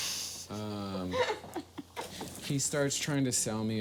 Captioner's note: laughs